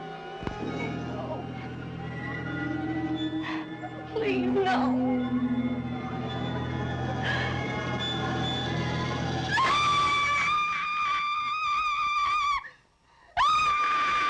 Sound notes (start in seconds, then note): 9.4 scream